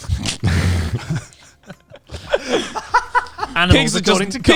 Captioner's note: all laughing quietly